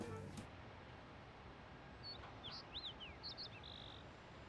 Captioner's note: birds chirping